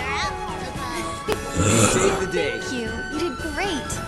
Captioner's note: shiver